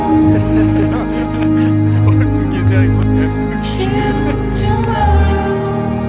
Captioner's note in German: Teamkollegen plaudern und lachen